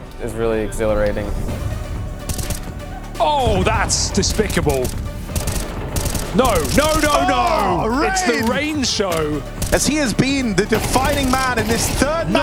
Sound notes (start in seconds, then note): 2.2 gun firing